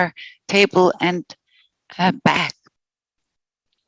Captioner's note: non-english speech